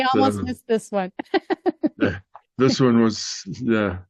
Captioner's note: laughing